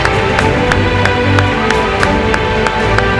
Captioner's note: the audience applauds